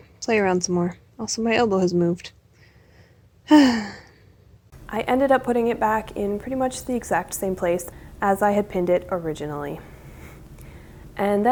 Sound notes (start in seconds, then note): 3.5 sigh